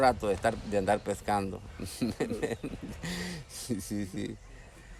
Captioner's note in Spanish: risas